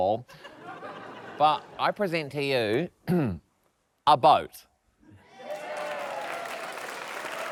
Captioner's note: clears throat; cheers, applause